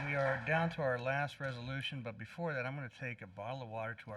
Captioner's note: applause